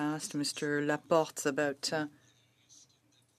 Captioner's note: speaking French